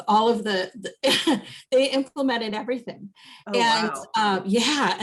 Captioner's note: chuckles